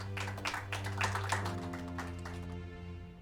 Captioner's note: applauding